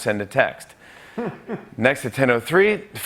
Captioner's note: laughter